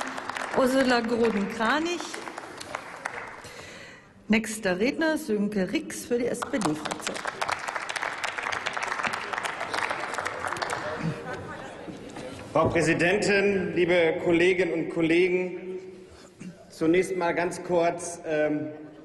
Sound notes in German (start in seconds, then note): 6.4 Applaus